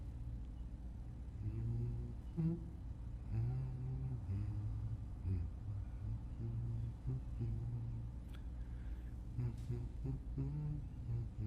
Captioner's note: humming